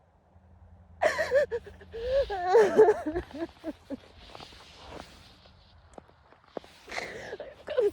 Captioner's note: sobs viscerally